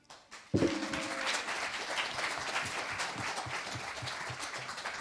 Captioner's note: applause